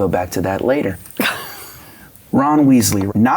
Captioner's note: laughing